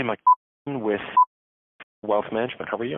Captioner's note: beep